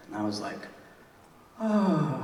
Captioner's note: sighs